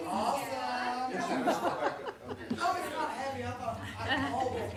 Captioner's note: laughs; murmured chatter